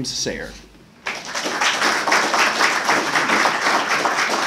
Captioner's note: applause